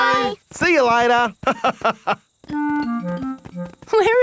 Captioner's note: laughs